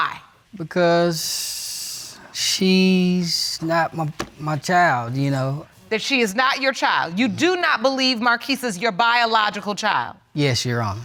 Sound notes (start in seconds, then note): none